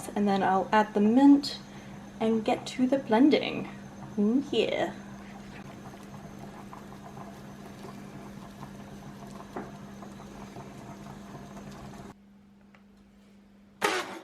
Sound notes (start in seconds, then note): none